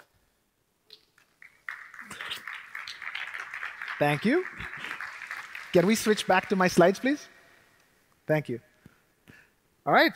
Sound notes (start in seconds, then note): 1.2 applause